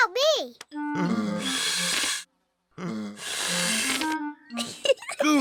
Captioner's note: blowing deeply; giggles